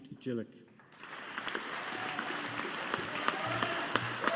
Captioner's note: audience applauding